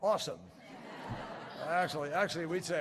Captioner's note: laughter